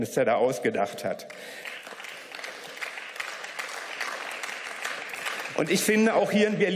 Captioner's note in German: Beifall